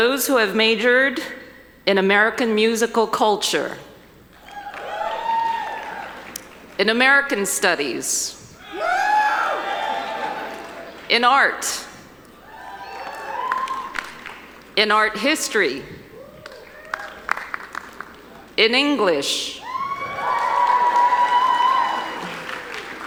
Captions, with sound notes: Those who have majored in American Musical Culture. (audience cheering) In American Studies. (audience cheering) In Art. (audience cheering) In Art History. (audience cheering) In English. (audience cheering)